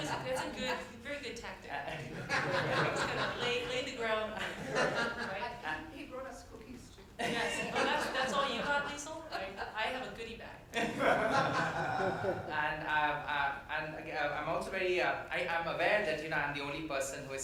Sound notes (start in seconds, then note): 0.0 panel laughs; 2.0 everyone laughs; 7.2 everyone laughs; 10.8 everyone laughs